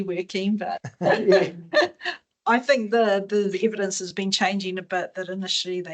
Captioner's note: laughs